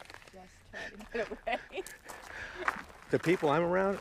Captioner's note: laughs